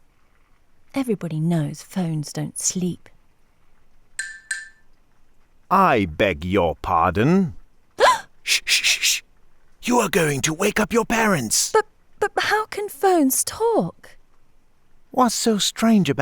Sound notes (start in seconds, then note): 8.0 Emma screams